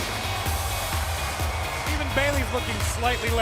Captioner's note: cheers and applause